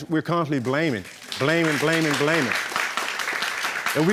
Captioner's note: applause